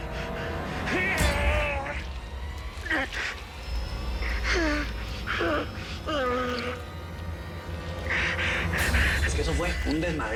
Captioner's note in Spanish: Gruñidos